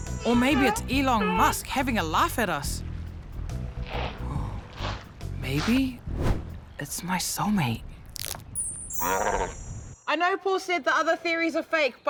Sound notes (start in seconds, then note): 9.0 seal growls